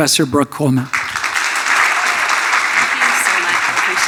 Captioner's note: audience applauding